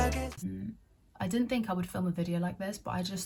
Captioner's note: joyful cheering, music